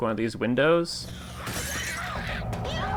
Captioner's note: glass Shattering